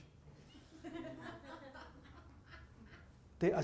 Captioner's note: laughter